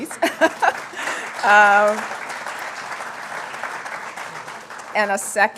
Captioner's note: applause